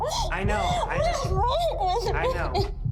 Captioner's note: crying